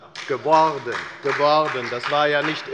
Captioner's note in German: Beifall bei der FDP